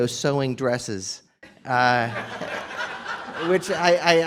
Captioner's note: laughter